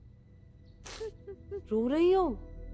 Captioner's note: Meher crying